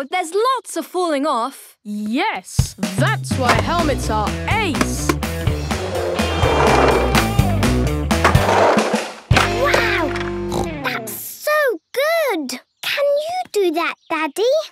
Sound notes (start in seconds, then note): 10.5 snorts